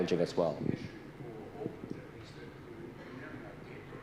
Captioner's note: man speaks off mic